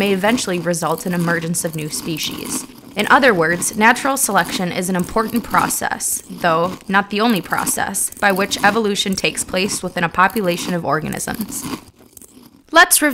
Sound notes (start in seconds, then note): 12.1 Munch